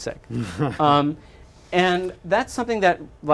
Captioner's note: chuckles